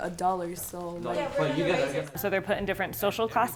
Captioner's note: chatter